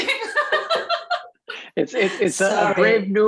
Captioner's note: laughing